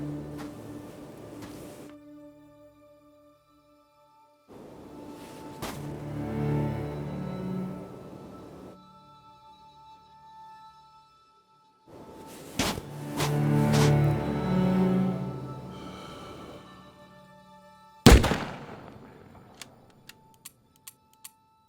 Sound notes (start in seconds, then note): 0.0 soft music; 12.2 hand digging; 16.4 soft music; 18.0 gun fires